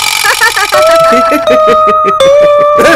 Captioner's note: Amma and Appa laughs